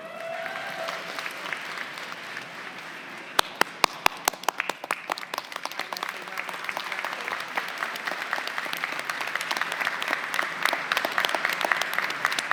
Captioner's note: applause